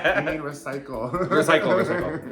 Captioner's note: both laughing; chuckling